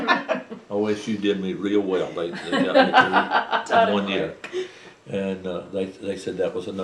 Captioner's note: laughter